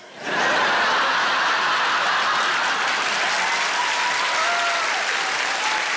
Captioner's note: audience laughing and applauding